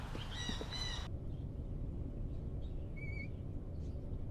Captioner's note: chirping birds